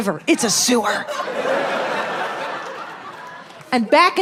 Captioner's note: audience laughing